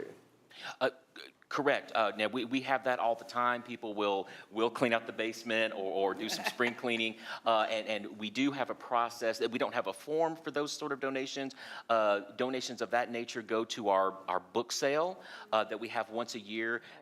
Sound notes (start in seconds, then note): 6.2 laughing